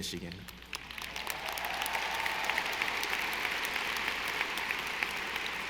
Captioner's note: audience applauding